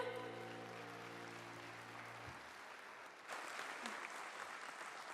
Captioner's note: applause